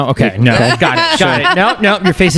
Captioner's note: laughter